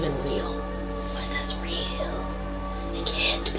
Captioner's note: whispers